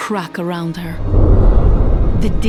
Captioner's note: resonant boom